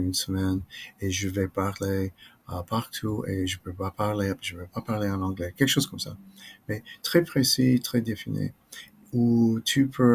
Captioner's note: French